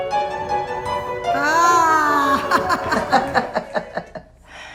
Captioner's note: laughs